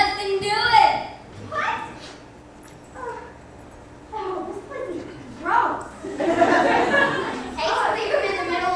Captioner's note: rants